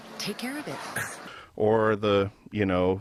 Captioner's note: male scoffs